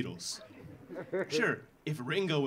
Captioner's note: audience laughing